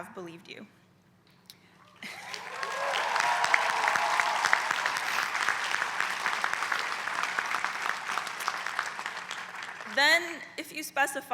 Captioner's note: applause